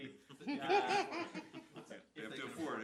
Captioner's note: panel laughs